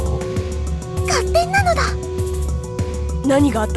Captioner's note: whisper